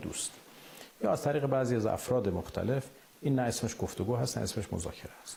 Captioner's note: speaking Alternate Language